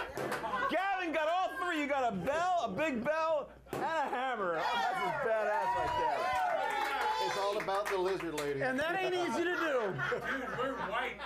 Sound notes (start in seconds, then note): 6.2 applause